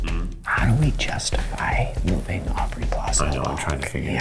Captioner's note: whispers